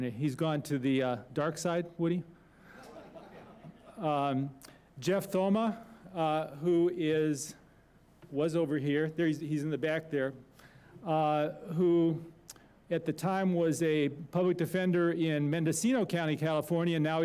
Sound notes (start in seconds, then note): 2.6 laughter